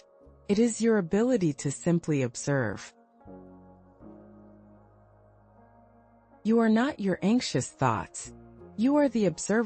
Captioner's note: pause